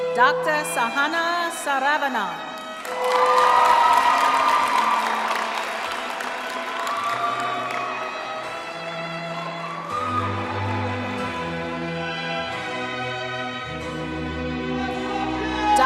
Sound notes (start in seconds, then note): 2.5 applause; 2.8 cheering